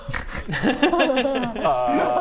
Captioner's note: excited laugh